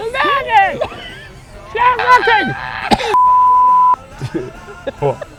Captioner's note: both laughing